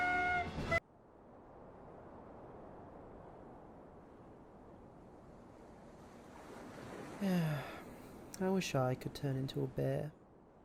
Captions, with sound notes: *sigh* I wish I could turn into a bear...